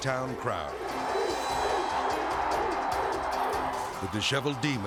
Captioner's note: audience cheering